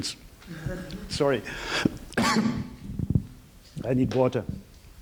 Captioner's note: coughing